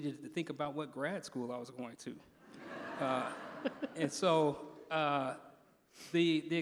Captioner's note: laughter